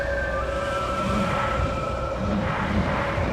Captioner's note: creature sounds